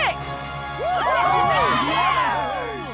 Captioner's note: cheering